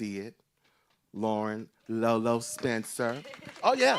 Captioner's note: group cheering